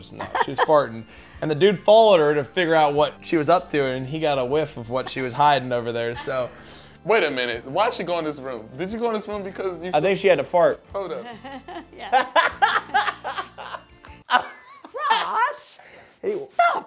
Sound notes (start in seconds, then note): 11.1 laughing; 11.2 granny laughing